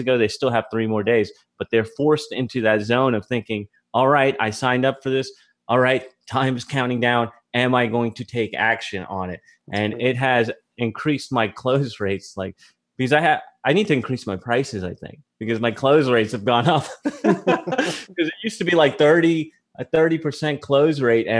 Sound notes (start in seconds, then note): 16.9 both laugh